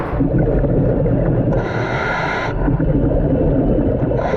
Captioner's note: underwater breathing